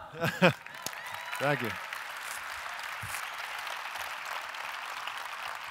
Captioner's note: audience applause